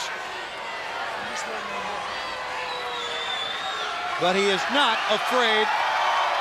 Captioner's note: crowd cheering